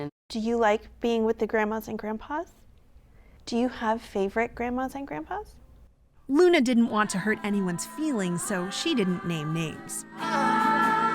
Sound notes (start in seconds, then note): 6.6 voice-over